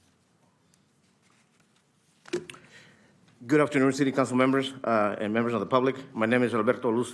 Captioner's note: speaking Spanish